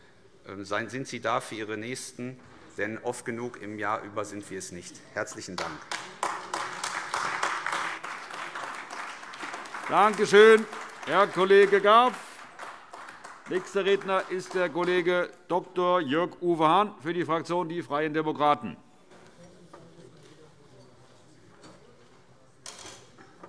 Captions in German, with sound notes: Seien Sie da für Ihre Nächsten; denn oft genug im Jahr sind wir es nicht. - Herzlichen Dank. (Beifall AfD) Danke schön, Herr Kollege Gaw. - Nächster Redner ist der Kollege Dr. Jörg-Uwe Hahn für die Fraktion der Freien Demokraten.